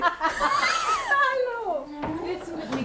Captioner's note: they laugh